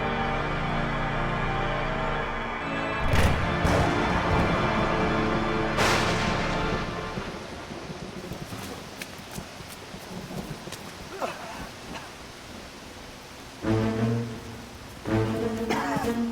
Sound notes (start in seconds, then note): 3.0 thunder crashing; 8.0 rain pattering; 13.6 tense music